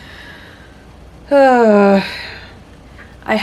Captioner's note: heavy sigh